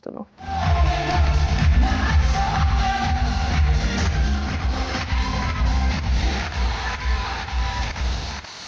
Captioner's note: applause